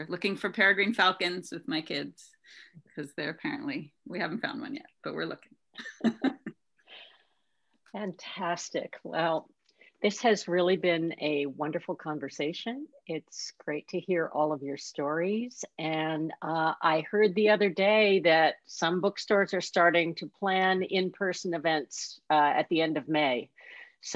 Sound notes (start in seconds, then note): 5.8 laughs